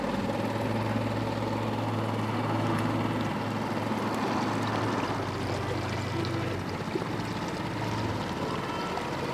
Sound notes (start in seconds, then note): 0.2 motor chugging; 5.6 water lapping